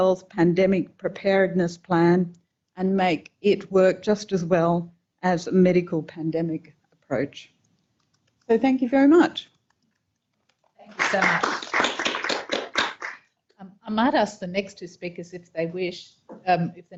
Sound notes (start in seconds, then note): 10.9 audience applauding